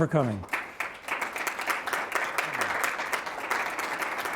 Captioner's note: audience applauding